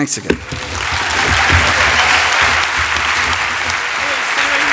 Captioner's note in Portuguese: aplausos